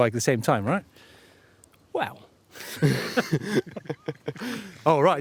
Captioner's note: laughs